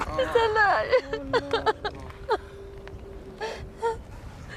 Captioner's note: speaking in a foreign language; crying